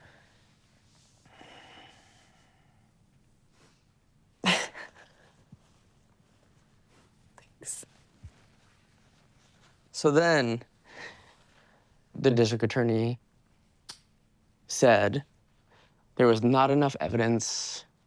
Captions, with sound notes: (person breathing) Thanks. So then the district attorney said there was not enough evidence